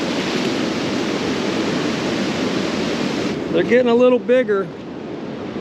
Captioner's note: water rushing; fish splashing